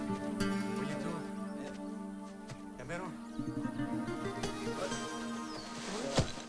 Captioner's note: slow guitar music; men speaking in foreign language